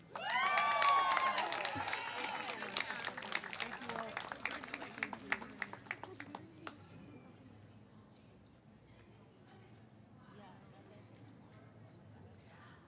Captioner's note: cheers and applause